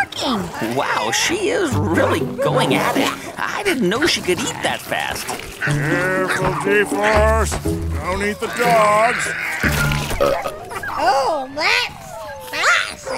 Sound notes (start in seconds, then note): 9.6 soundbite of burp